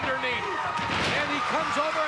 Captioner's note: bodies thud